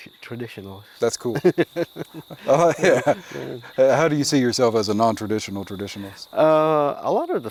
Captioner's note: laughs